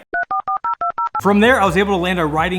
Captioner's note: internet dialing up